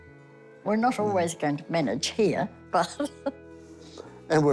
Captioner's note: laughs